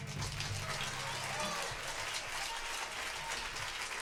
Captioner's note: applause